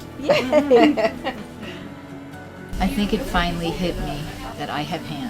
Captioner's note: laugh